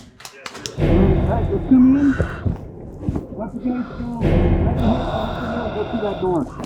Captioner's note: tense music; crew chattering